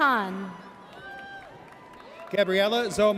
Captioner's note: audience cheers